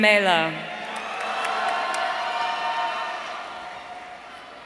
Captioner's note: audience cheering